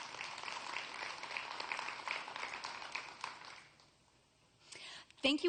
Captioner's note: applause